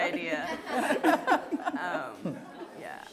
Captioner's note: laughter